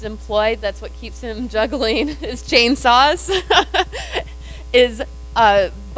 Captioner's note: laughs